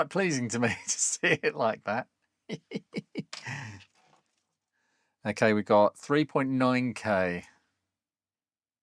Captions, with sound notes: pleasing to me to see it like that. (Chuckles) Okay, we got 3.9K.